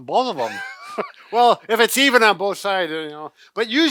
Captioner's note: laughs